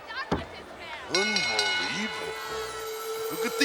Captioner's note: bell rings; peaceful music